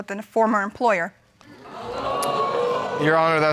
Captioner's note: crowd